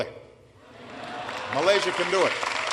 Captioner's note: applause